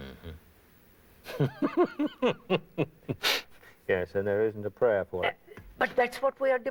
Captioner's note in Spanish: Risas